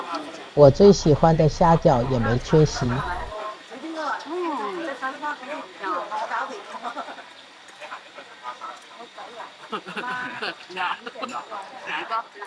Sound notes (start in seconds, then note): 9.8 cough cough